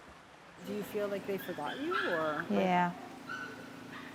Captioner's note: speaking spanish